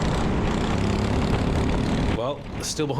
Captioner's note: engine revving